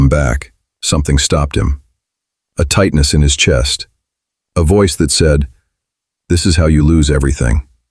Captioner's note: internal voice